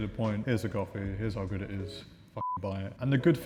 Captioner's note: beep